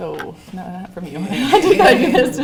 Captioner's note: laughter